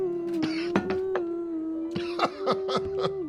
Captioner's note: coughing